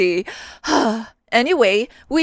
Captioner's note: sigh